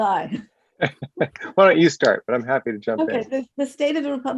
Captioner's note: laughs